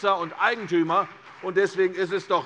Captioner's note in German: Beifall CDU